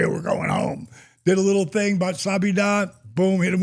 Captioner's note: speaks in foreign language